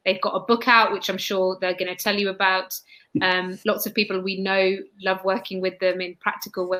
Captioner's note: erm